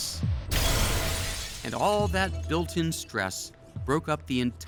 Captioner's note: glass shattering